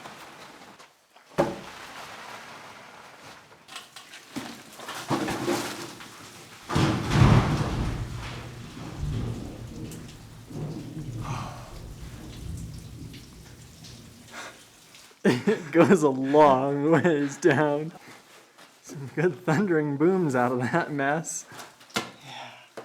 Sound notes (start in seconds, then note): 6.5 crashing and echoes